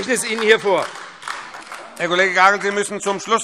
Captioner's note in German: Beifall AfD